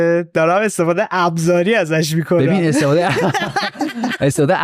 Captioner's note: laughs